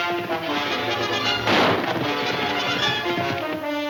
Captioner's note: gun firing